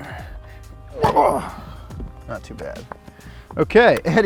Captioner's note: grunts